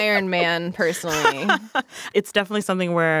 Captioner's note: laughing